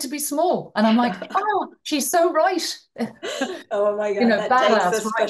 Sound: laughs

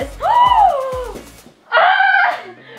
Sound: gasping

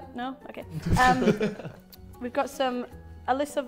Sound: Sidemen laughing

